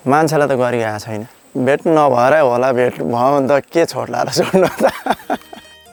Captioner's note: laughter